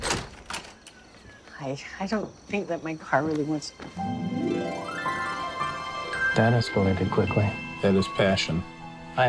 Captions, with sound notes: (door opens) Hi. I don't think that my car really-- (magical music) Damn, he works quickly. That is passion.